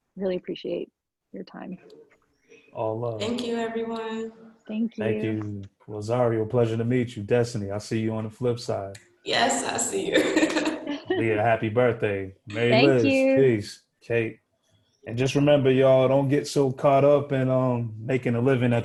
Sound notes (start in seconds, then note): 10.0 laughing